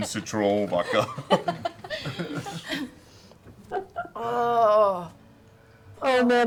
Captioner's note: groans